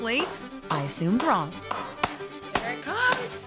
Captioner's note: pounding